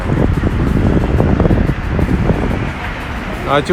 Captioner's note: wind noise